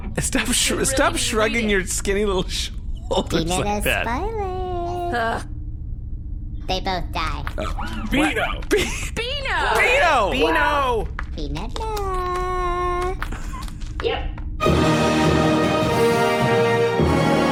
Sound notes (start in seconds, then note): 0.7 laughing; 4.7 singsong; 7.1 groans